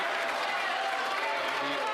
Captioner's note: applause